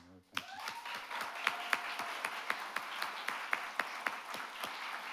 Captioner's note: audience clapping